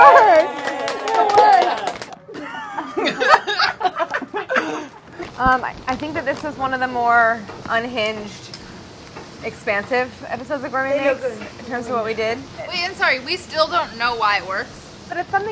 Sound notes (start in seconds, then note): 3.2 laughing